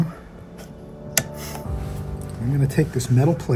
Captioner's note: meter scrapes; switches click